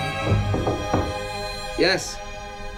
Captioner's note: knocking